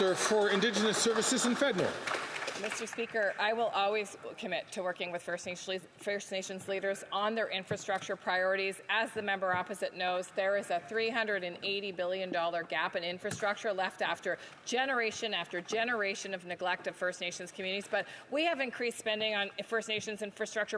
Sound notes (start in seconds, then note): 3.6 some Applause